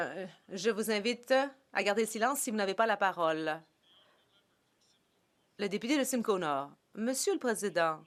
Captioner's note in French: voix de l'interprète